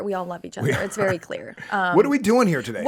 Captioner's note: laughs